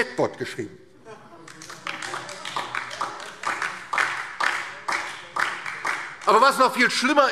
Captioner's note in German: Heiterkeit und Beifall DIE LINKE